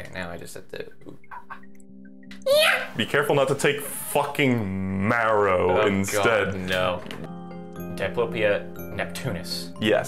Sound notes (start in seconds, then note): 2.4 makes a sound akin to one of a monkey